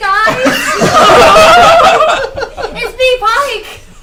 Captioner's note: all laugh